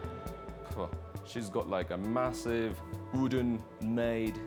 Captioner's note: Hide scoffs